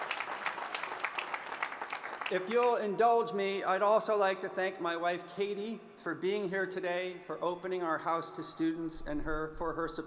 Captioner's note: applause